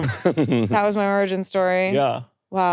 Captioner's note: laughing